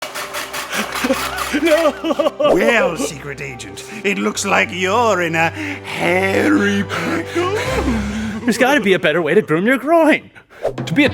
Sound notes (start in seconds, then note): 0.0 metal clattering; 1.1 man sobbing; 7.3 panting